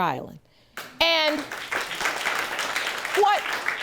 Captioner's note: audience clapping